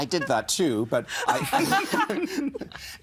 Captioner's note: all laughing